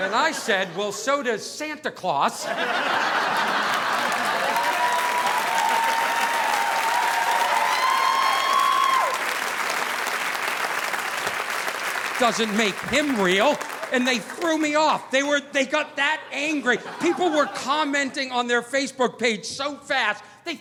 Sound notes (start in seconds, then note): 2.4 audience laughing; 2.6 audience applauding